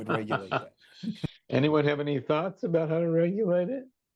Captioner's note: laughs